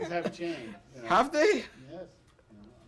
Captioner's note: laughter